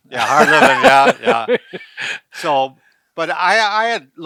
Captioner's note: chuckling